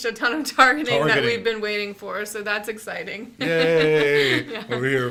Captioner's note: laughs